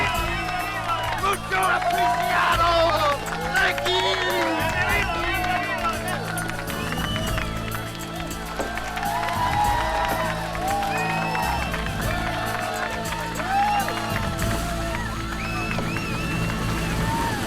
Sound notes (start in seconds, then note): 0.3 group cheers; 1.6 Latrell speaking in foreign language; 6.1 overlapping chattering; 9.1 group cheers